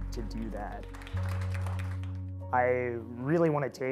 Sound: audience clapping

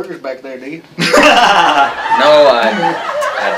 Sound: laughter

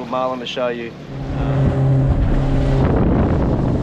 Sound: engine humming and water splashing

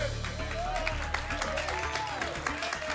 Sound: applause and cheering

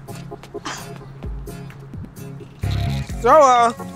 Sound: scoffs

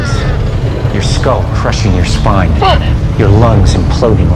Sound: grunting

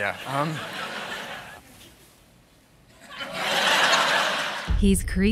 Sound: audience laughing

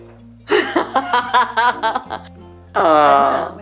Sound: laughing

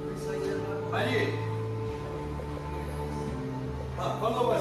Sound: speaking in Italian

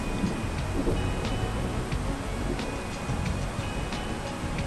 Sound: sound of thunder rumbling

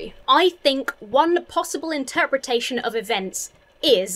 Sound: none

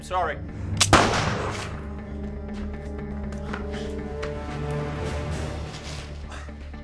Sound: dark dramatic music; gunshot fires

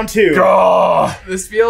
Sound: groans

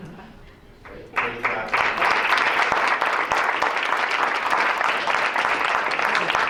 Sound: applause

